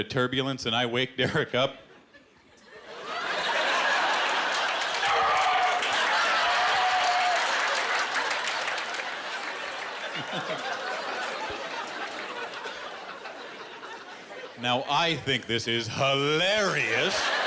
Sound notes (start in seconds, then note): 1.2 laughter; 5.0 screaming; 7.3 laughter and applause